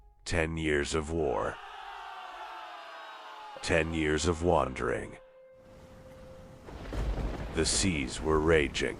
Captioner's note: cheering and screaming